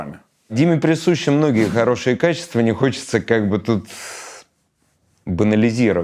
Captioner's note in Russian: шумно вдыхает